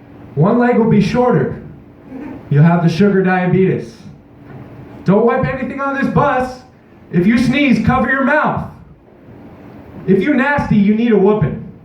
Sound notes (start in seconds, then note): 2.0 audience member chuckle